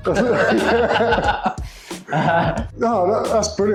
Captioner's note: both laughing